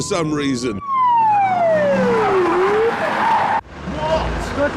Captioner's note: siren blares